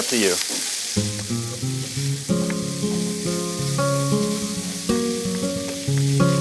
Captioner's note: bacon continues sizzling; relaxing music